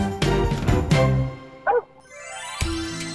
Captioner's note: fido barks